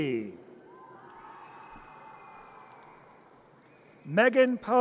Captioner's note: audience cheers